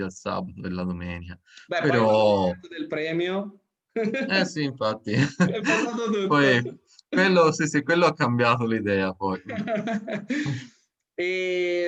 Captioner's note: laughs